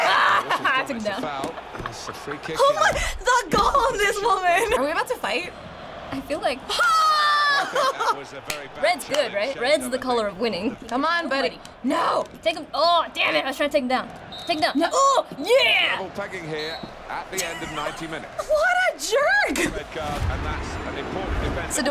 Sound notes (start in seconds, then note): 0.0 laughing; 14.2 ref blowing whistle